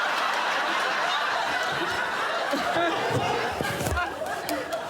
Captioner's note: laughter